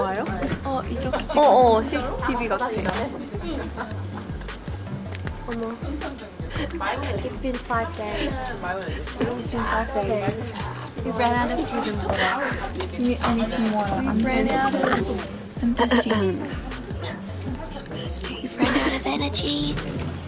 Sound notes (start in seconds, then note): 14.4 haha